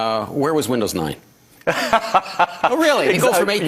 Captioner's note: laughing